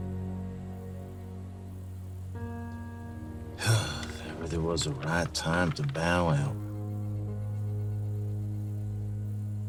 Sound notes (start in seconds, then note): 3.6 sighs